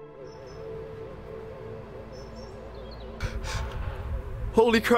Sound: UFO Sound

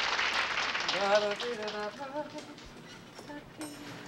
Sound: humming

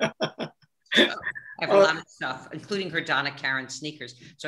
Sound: laughing

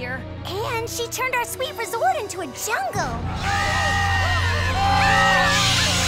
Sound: panicked screaming

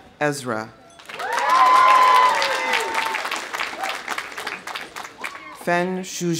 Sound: audience applauding; audience cheering

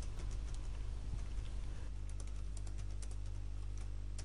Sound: sound of typing

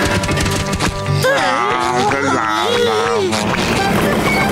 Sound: groaning

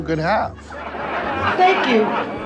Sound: laughing

